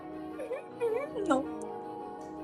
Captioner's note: snickering